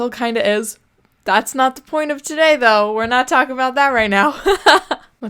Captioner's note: laughs